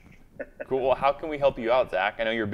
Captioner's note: laughs